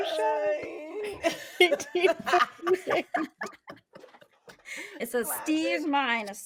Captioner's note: people laughing